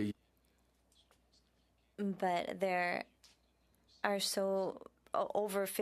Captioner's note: speaking French